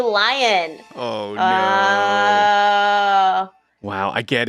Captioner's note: groans